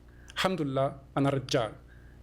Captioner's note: non-english